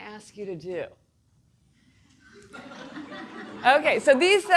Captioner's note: audience laughing